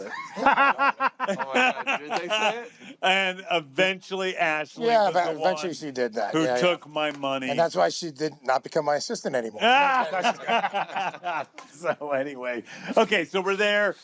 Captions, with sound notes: -(LAUGHTER) -Did they say it? And eventually, Ashley was the one -who took my money. -Yeah, eventually, she did that. And that's why she did not become -my assistant anymore. -(ALL LAUGH) So anyway... Okay, so, we're there.